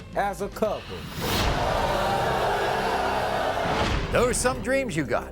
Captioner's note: audience booing